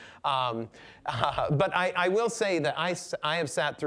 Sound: chuckling

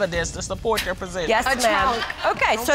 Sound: scoffs

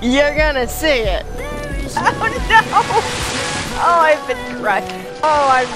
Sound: laughs

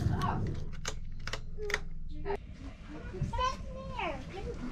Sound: metal jingling; switches clicking

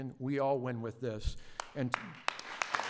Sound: applause

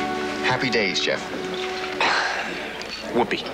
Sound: chuckles

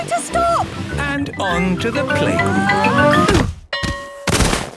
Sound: exclaiming and grunting; bell ringing

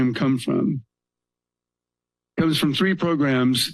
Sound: pause

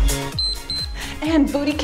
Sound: timer beeps

